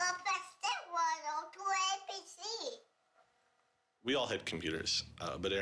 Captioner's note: baby talk